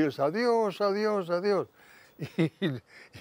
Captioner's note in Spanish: Ríe